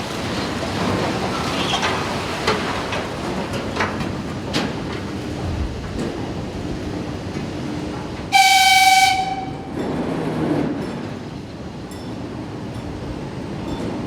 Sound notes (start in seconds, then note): 0.0 fire roaring; 8.4 siren blaring